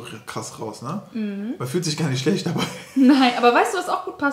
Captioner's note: laughing